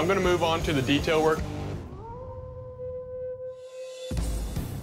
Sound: howling

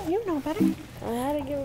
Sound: error sound

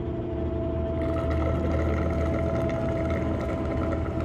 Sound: straw slurping

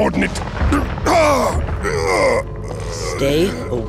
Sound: grunting

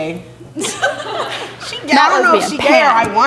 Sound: laughing

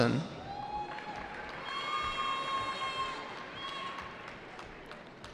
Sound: cheering

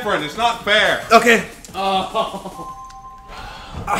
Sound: laugh

